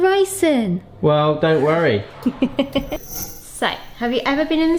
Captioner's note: chuckles